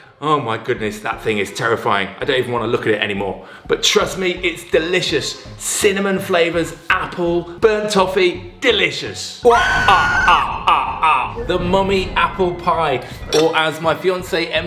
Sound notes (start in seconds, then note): 9.4 cackles; 9.4 woman screams